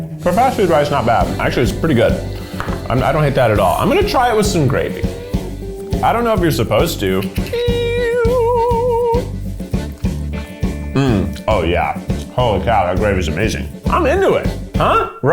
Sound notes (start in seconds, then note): 7.5 upbeat music; 7.5 vocalizing